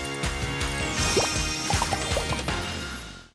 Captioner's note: bubbles popping